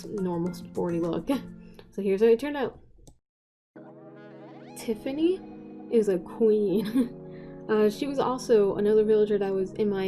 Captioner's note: chuckle